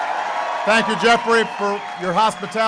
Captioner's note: applause